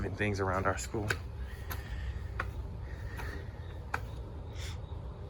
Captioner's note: feet clapping